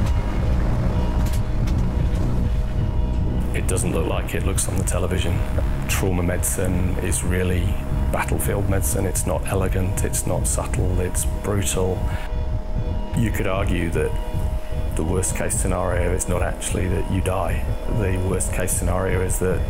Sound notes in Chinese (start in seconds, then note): 1.0 手术室里的声音